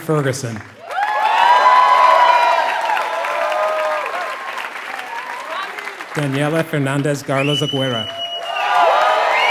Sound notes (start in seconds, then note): 0.0 applause